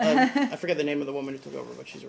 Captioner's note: laughter